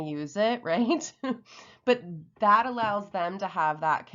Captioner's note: chuckles